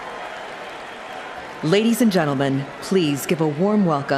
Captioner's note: cheering and applause